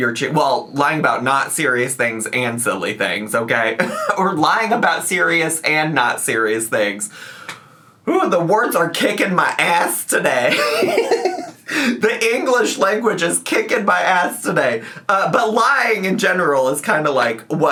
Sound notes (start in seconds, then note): 10.5 giggles